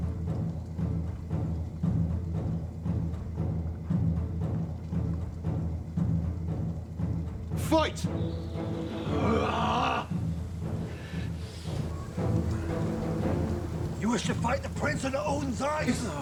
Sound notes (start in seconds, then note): 0.2 dramatic music continues; 9.3 Volnard grunts